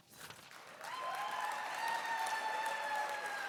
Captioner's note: applause